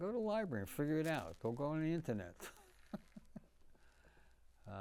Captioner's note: laughing